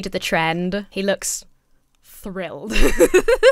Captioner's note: laughs